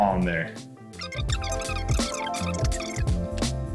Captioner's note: speech accelerated; melodious music